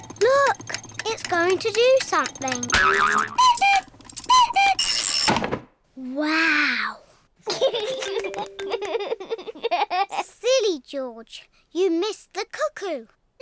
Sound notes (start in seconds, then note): 3.1 clock cuckoos; 7.5 laughs